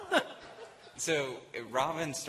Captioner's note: laughter